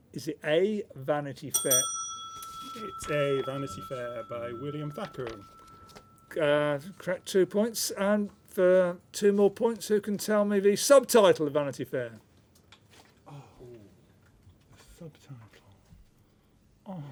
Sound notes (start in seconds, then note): 13.2 soft groans